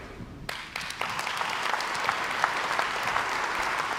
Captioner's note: crowd applauds